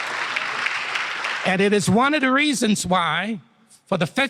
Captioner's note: applause